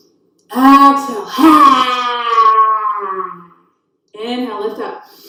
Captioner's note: yelling sound